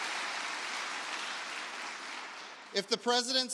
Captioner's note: applause